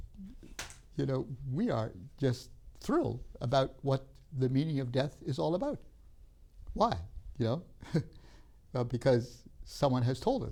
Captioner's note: laughs